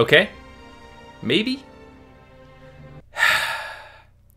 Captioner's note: sigh